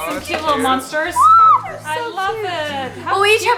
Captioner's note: screams